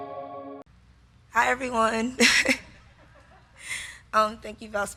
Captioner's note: laughs